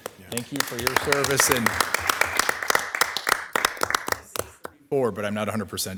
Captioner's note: attendees applauding